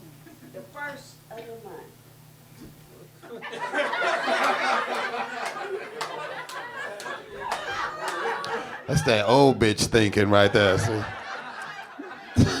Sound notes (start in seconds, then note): 3.6 audience laughing; 10.2 laughs